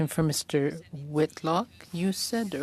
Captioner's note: speaking French